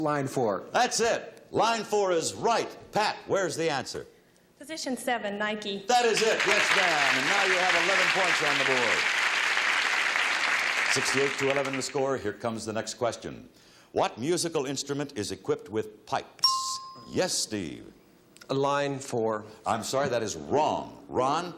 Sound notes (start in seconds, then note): 9.8 audience applauds; 16.4 bell chimes